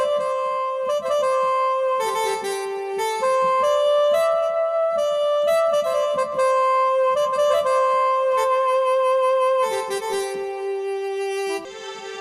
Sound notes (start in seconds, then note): none